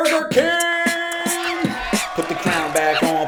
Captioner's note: comic cheering; animals calling